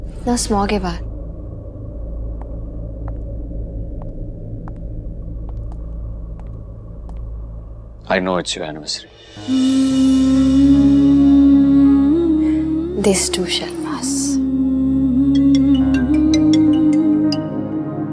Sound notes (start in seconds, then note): 15.2 Phone ringing